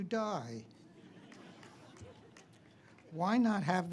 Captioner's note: all laugh